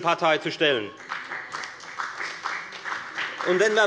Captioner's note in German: Beifall bei der FDP